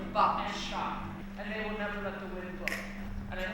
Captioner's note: snaps